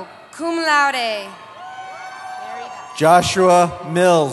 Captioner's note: cheering